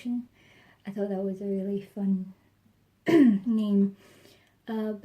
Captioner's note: clears throat